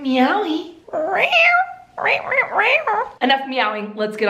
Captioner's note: imitating cat's meow